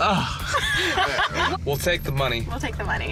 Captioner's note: sighs; laughter